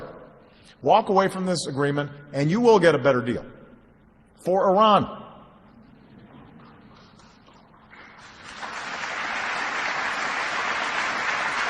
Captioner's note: applause